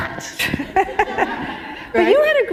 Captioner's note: laughter